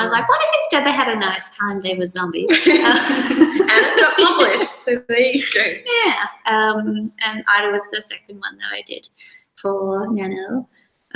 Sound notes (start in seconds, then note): 2.5 laughter follows